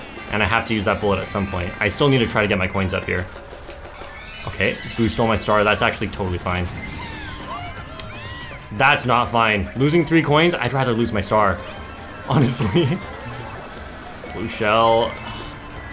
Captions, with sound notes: and I have to use that bullet at some point. I still need to try to get my coins up here. Okay, boost all my star that's actually totally fine. That's not fine, losing three coins. I'd rather lose my star, honestly. [laughs] Blue shell.